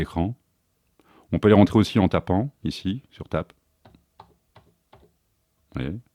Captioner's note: tap